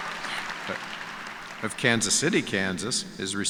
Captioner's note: cheers and applause